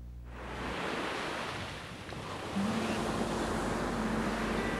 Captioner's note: waves crashing gently